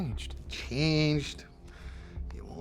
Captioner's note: scottish accent